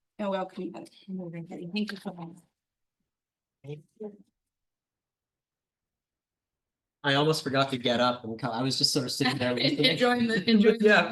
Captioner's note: laughter